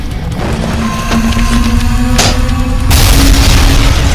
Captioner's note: ground crashes; scorpion beast shrieks; tentacle beast blares; ground crashes